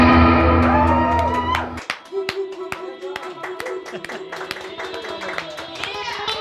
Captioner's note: audience cheering and clapping